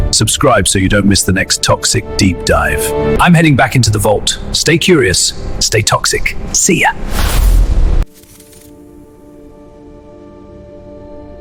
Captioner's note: sarcastic Commentary